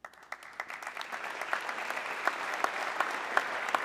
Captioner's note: audience clapping